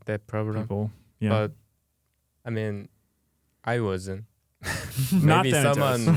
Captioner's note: laughing; laughs